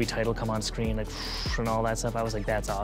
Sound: exhales deeply

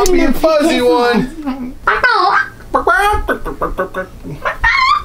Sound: imitates chicken clucking

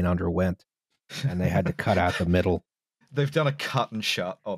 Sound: laughs

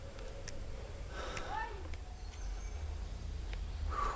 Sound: crying

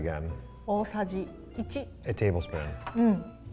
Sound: speaks in foreign language

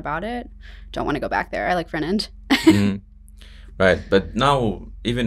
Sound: laughs

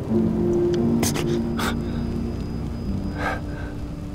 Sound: Dr. Brenner gasps

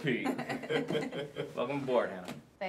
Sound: all chuckling

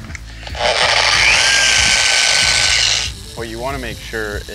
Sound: machine whirring

